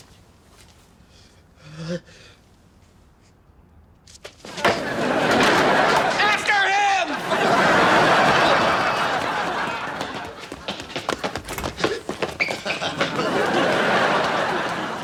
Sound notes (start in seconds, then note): 1.6 sighs; 4.3 audience laughs; 7.6 audience laughs